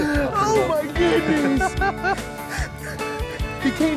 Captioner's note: laughs